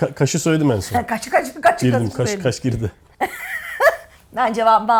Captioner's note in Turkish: kahkaha